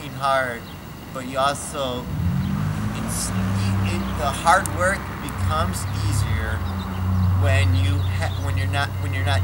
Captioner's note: car drives